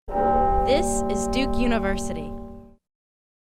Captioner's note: bell tolls